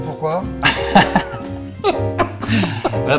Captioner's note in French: rires